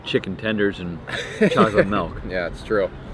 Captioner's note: laughing